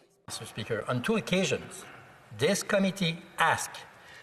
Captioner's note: speaking French